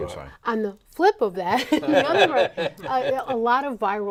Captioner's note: laughing